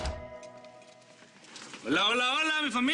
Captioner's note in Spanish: Sonido al abrir la puerta